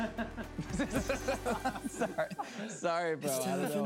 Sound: laughter

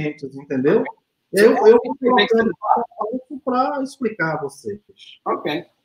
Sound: speaks portuguese

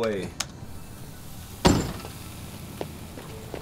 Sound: hissing

